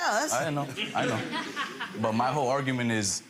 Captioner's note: audience laughs